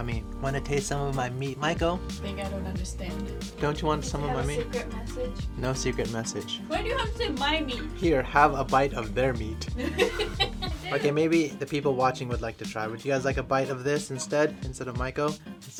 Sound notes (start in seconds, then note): 9.7 laughter